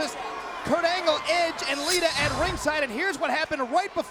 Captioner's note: metal scraping